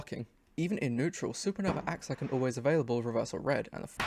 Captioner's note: loud firework